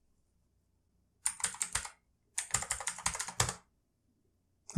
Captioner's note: typing again